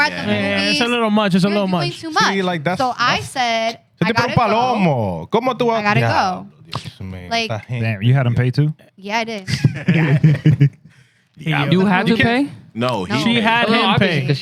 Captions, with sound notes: It's a little much, it's a little much. You're at the movies too much. See, like that's-- So I said, I gotta go. (Speaking Foreign Language) I gotta go. Yeah. Like-- You had him pay too? Yeah, I did. (Laughing) You had him pay? No, she had him pay. No, obviously.